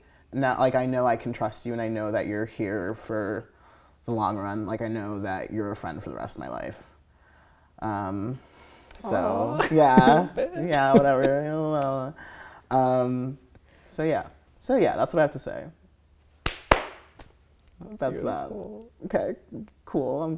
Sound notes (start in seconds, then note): 16.4 clapping